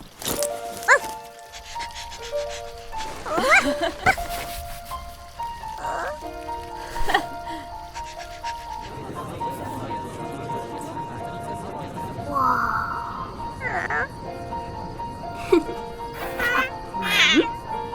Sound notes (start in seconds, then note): 2.3 dog panting; 6.8 girl giggling; 11.1 gentle music; 15.4 soft music